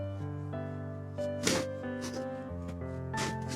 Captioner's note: crunches of bones